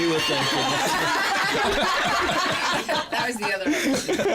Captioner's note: laughter